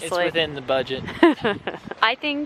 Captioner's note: laughs